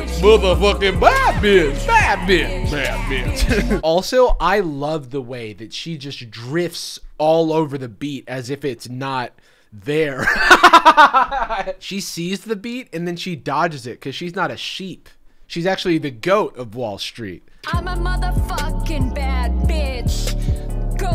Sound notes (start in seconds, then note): 3.4 chuckles; 10.1 laughing